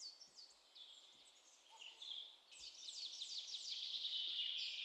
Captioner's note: birds chirping